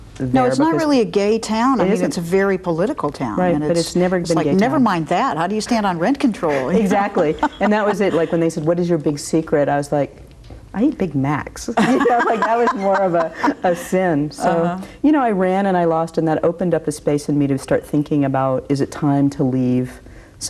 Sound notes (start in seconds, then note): 6.6 laughs; 11.8 both laugh